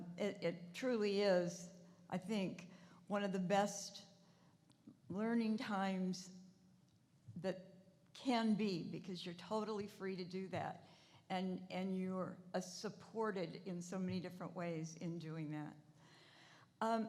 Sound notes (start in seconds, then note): none